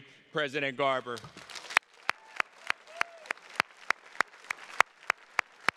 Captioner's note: attendees clapping